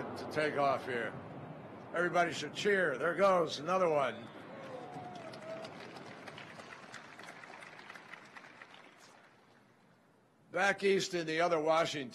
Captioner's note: cheering and applause